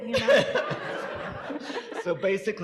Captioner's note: audience laughing